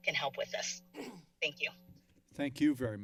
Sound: clear throat

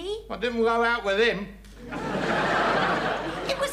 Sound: audience laughs

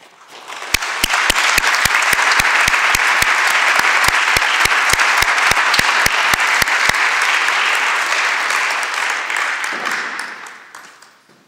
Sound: applause

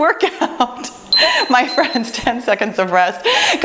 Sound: timer beeps

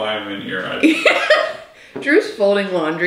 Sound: laughs

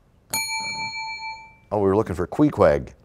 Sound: bell rings, time expires

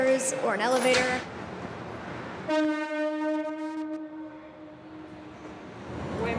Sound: subway train honking

